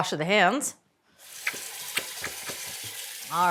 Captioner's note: water running